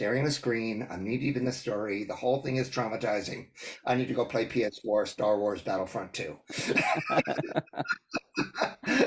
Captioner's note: laugh